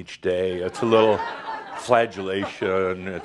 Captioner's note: some laugher